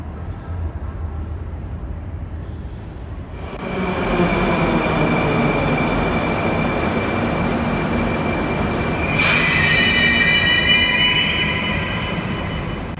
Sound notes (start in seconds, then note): 2.9 arrival of train at the station